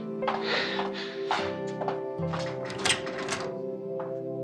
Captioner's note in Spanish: Pasos que se alejan y ruido al salir